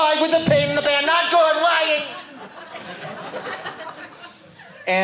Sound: audience laughing

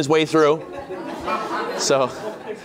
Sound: laughter

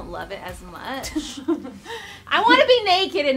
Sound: laughing

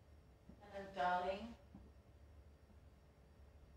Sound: female voice

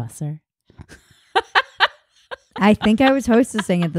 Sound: laughing

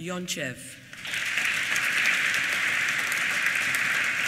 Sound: applause

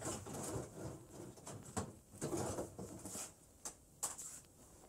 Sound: drawer scraping

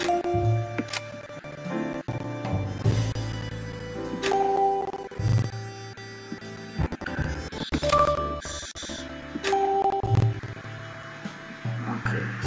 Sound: slow pace music continuously; whispering

